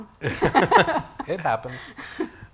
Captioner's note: laughing